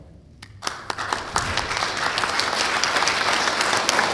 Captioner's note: applause